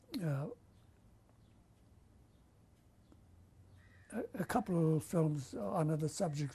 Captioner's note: pauses for 3 seconds